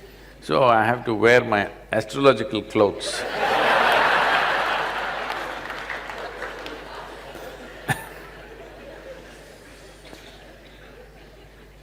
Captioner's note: laughter